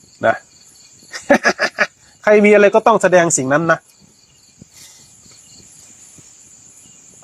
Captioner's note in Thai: เสียงหัวเราะ